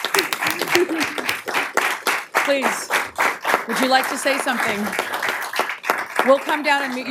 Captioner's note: applause